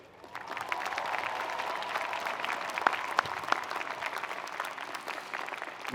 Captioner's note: audience cheering and applauding